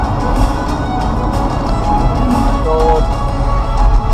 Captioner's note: hard braking sound